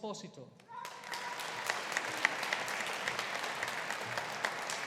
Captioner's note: audience applauding